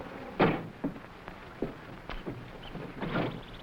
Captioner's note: jungle animals groaning; plane wreck clanking; animals chattering